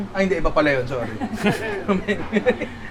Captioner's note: chuckles